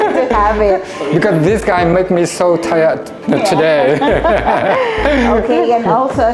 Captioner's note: laugh; laugh